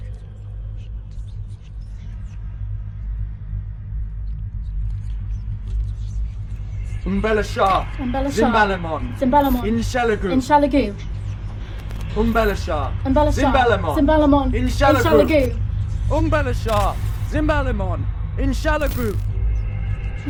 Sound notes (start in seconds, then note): 0.1 soft brooding music; 7.2 Alan speaking in foreign language; 8.1 both speaking in foreign language; 12.3 Alan speaking in foreign language; 13.1 Emma speaking in foreign language; 14.0 both speaking in foreign language; 16.2 Alan speaking in foreign language